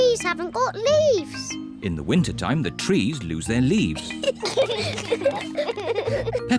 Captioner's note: both giggle